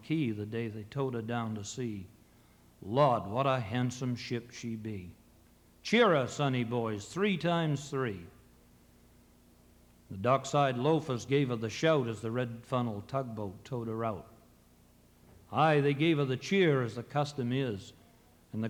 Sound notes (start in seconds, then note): none